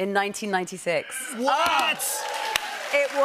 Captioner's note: audience cheers